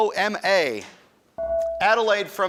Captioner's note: buzzer dings